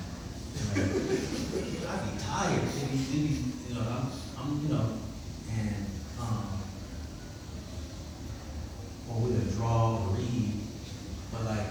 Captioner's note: laughs